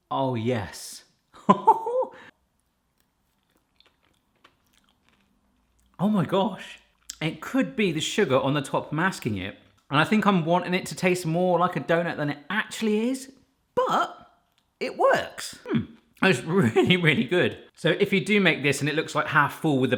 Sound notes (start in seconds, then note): 1.3 chuckling; 2.8 chewing